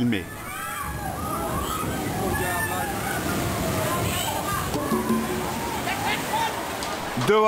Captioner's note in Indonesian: suara gelombang air; suara kepanikan